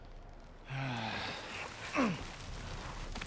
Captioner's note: sigh